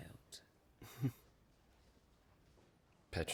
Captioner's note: chuckles